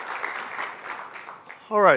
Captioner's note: applause